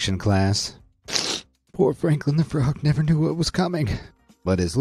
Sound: sniffs

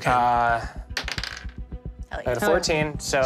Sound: dice clatters

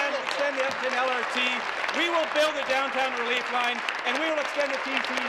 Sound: applause

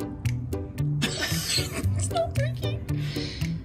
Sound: laughter

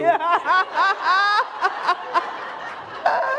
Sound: laughter

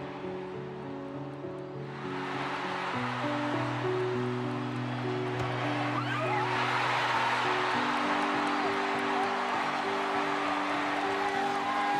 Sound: crowd cheering

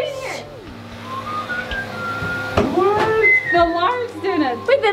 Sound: phone whistling

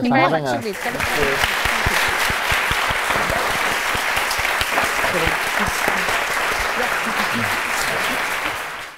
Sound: applause

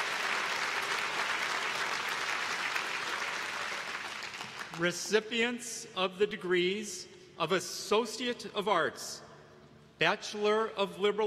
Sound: applause

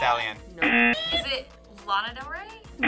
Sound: buzzer sounds

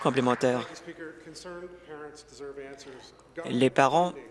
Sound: applause

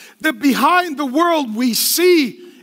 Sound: none

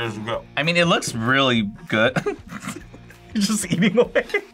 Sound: laughs

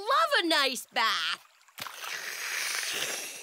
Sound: slurping sounds

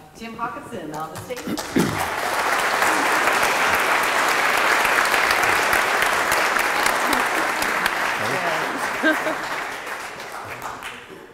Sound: audience Applause

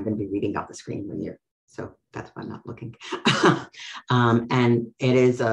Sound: laughs

